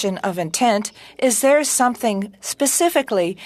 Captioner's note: speaking French